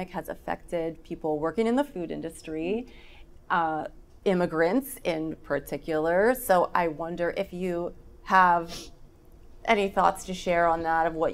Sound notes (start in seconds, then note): none